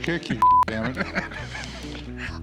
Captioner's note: laughter